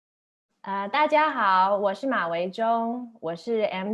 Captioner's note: mandarin